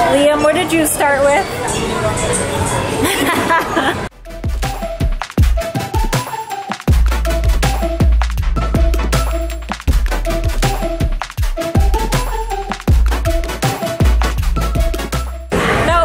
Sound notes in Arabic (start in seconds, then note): 2.9 يضحك; 4.2 موسيقى مبهجة